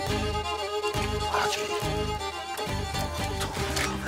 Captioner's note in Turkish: Bir şeyler mırıldanıyor